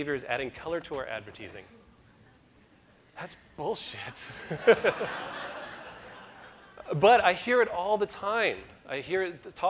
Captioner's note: audience laughter